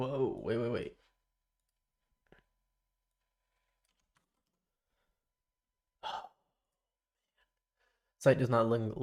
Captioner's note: silence